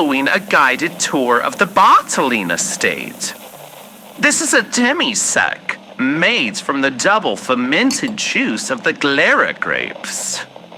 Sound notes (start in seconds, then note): none